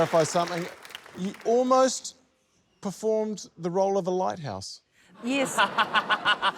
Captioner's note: laughter